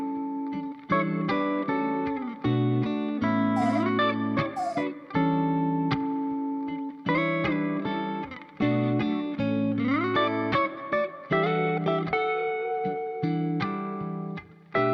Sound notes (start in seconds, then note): 4.5 doggy whining